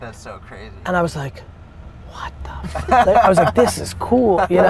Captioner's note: laugh